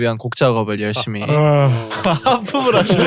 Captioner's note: yawns